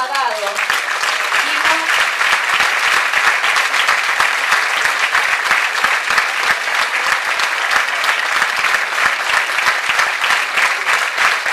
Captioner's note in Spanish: aplausos